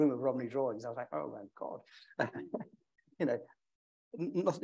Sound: chuckles

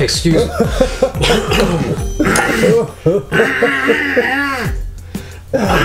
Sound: coughs dramatically

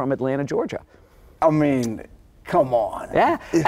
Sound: chuckling

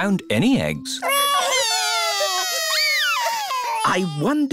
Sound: wailing

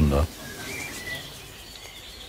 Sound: birds chirping

